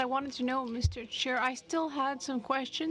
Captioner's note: speaking in french